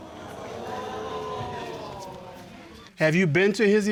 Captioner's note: audience gasping